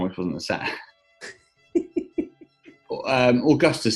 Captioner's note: giggling